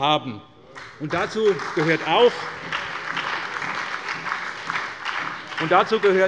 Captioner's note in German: Beifall bei der SPD und dem BÜNDNIS 90/DIE GRÜNEN